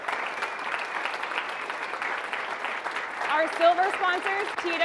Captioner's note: audience applauding